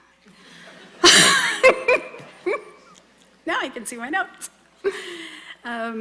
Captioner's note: laughs